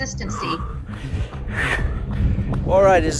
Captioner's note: heavy breathing